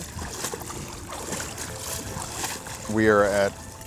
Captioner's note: splashing waves